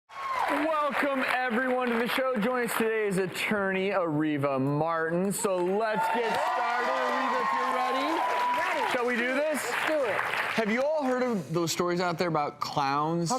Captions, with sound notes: (audience clapping and cheering) Welcome everyone to the show. Joining us today is attorney Areva Martin, so let's get started! (clapping and cheering) Areva if you're ready? I'm ready! Shall we do this? Let's do it. Have you all heard of those stories out there about clowns?